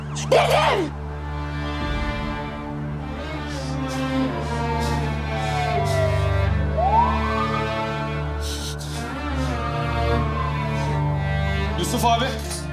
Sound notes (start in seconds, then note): 3.2 emotional music continues; 5.9 siren sounds